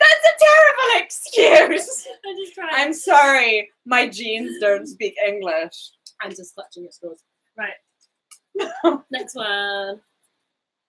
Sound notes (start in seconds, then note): 6.2 speaks quietly